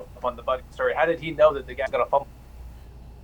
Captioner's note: electronically garbled speech